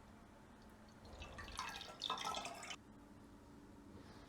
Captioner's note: water drips